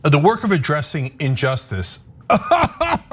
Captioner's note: laugh